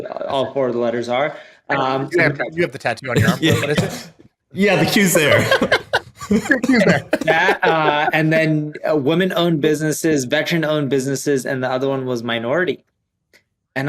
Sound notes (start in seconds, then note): 5.2 all chuckle